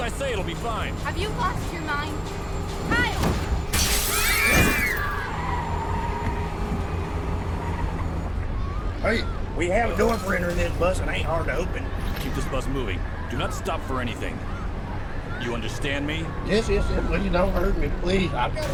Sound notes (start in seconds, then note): 3.0 glass shattering; 4.2 children screaming